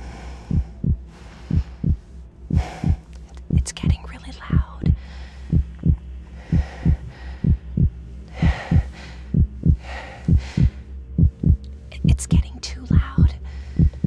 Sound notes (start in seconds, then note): 1.4 heart beat gets louder; 3.0 whispering; 5.4 heart beat gets louder; 9.2 heart beat speeds up; 11.8 whispering; 13.7 heart beat gets louder and faster